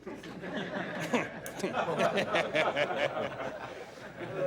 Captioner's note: people laughing